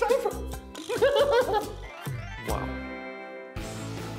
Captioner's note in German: Überschwängliches Lachen